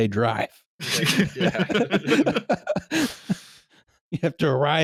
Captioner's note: laughter